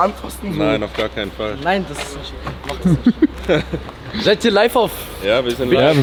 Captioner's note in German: gelächter